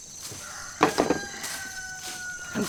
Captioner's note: rooster crows